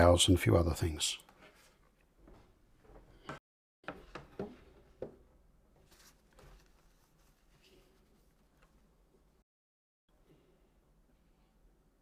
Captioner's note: silence